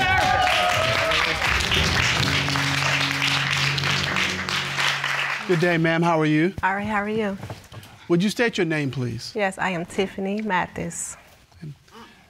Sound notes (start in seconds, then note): 0.0 audience clapping